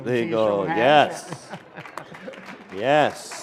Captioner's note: applause